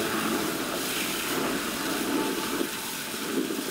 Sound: hose whooshing

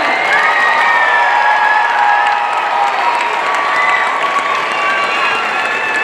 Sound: audience cheering and applauding

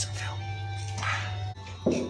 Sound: lip smack

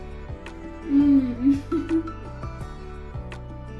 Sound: chuckles

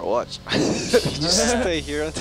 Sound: laughing

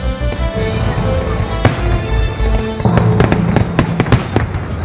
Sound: fireworks exploding

